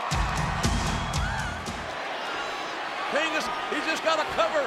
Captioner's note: applause